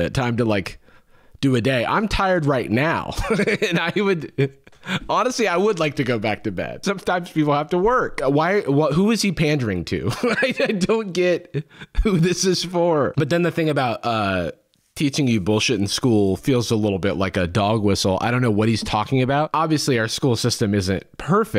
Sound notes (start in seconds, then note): 3.1 chuckles; 10.1 laughing